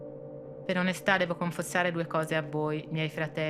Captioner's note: speaking italian